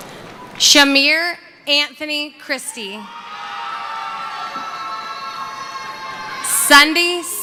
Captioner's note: cheering; cheering